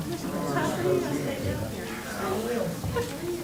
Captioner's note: crowd talking indistinctly